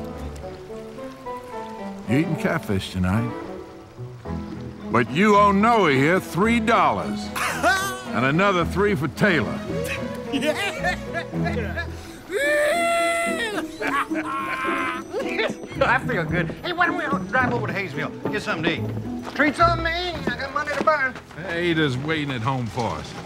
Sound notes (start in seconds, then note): 10.2 laughter; 12.2 Taylor cheering